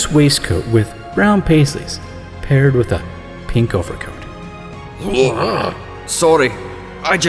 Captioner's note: gagging noises